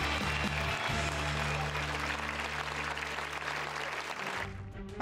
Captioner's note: cheers and applause